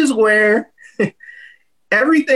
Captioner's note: chuckles